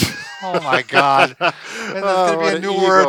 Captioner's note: laughs